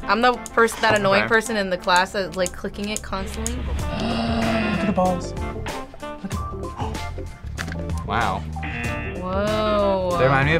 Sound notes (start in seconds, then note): 3.8 gasps; 6.3 gasps; 8.6 buzzer rings